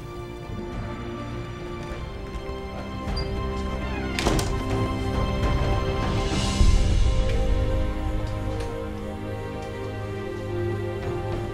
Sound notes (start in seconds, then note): 1.2 melancholy music; 3.1 door slams